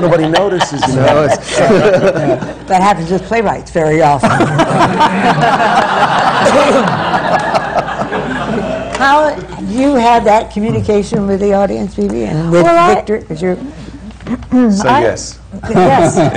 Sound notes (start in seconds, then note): 0.0 laughter; 4.2 laughter; 15.6 laughter